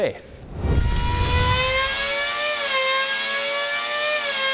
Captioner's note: high-revving engine